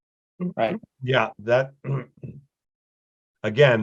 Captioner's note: clears throat